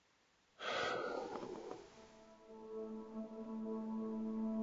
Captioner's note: sighs